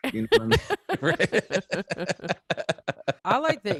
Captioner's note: all laughing